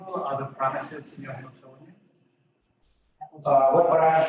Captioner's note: audience member trails off